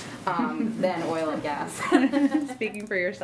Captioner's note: laughs